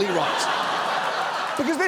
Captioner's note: studio audience laughs